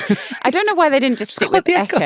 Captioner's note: laughing